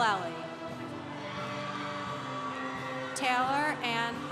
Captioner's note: congregation cheering